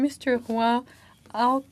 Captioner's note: speaking in French